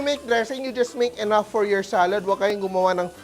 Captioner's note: sizzles